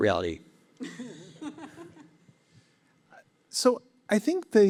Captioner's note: laughs